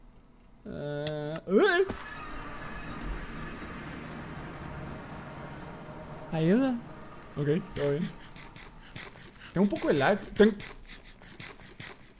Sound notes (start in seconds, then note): 1.1 yelps; 6.2 in Spanish; 8.0 eating sounds